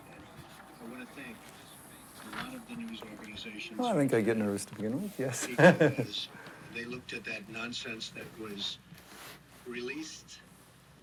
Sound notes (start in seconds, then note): 5.1 laughs